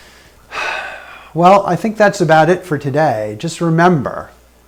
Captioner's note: sighs